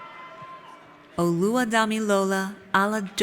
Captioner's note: none